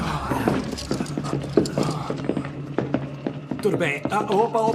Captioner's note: footsteps approaching